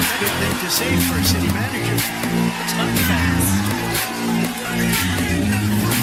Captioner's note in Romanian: Aplauze